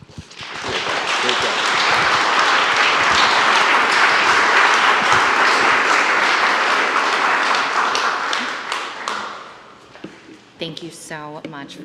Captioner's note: applause